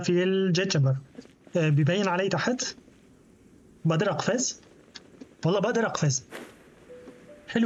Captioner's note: footsteps